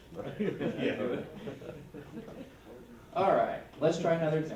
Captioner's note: laughter